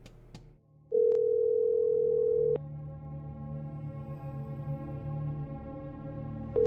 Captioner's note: phone ringing; tense ominous music